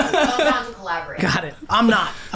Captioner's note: group laughs